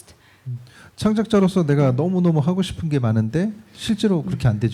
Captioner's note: speaking korean